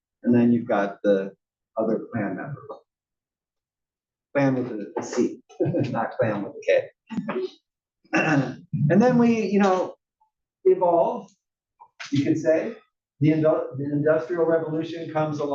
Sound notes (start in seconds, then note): 8.1 cough